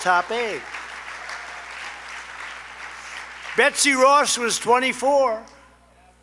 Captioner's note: applause